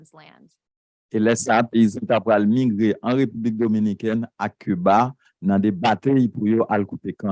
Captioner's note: speaking a foreign language